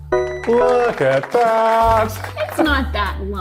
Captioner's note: applause